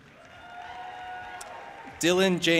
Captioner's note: audience applauding and cheering